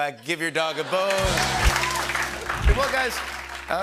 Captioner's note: laughter